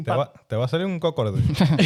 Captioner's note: speaking Foreign Language